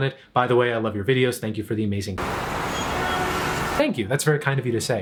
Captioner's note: city noise